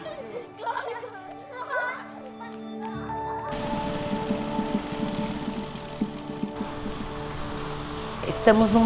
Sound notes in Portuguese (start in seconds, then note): 0.0 risadas de crianças